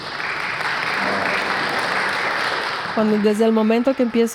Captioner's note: applause